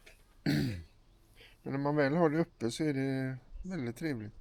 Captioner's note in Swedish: harklar sig